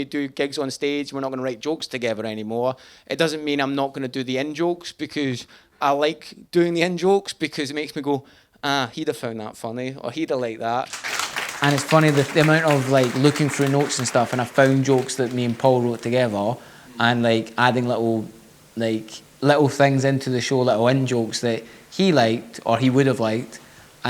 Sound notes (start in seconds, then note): 10.8 audience applauding